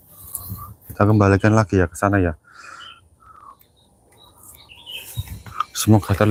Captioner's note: bird Sound